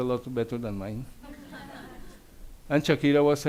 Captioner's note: audience laughs